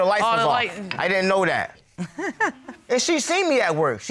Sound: chuckles

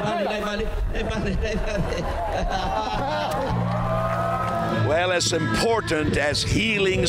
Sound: speaking native language

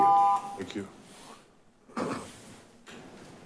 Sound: beep

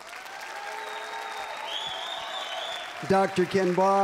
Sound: applause, cheering

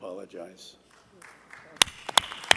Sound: applause

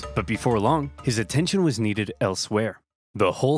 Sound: none

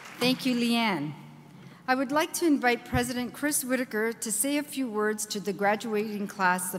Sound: applause

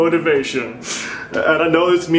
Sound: depressed Breathing

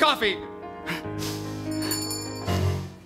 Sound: bell chimes

